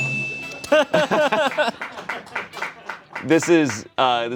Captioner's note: bell dings; laughing